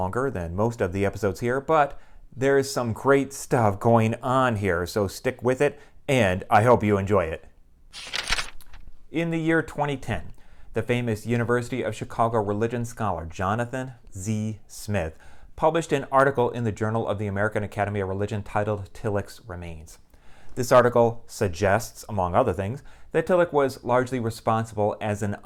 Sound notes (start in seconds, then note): 7.9 page turning